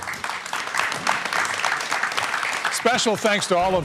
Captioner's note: applause